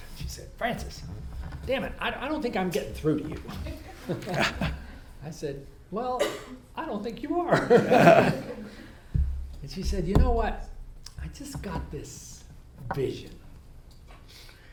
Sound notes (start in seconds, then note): 3.4 all laugh; 7.5 all laugh